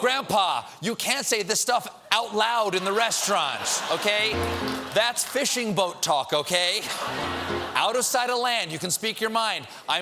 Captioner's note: laughter